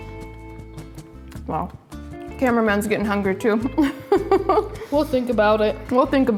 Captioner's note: laughs